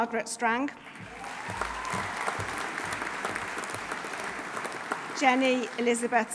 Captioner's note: audience applauding; audience cheering